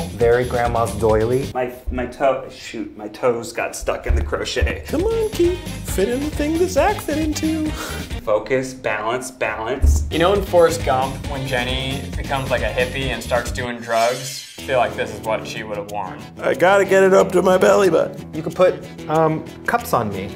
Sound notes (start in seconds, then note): 5.0 in a sing-song voice